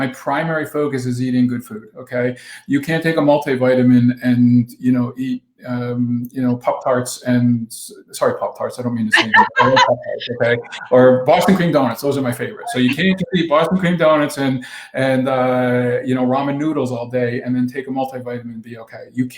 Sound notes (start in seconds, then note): 13.8 laughs